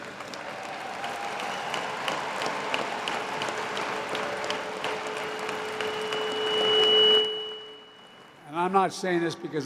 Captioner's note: applause